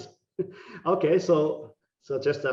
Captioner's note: laughing